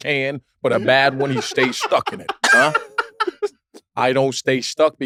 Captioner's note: laugh